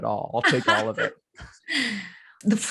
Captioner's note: laughs